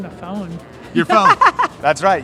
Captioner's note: laughing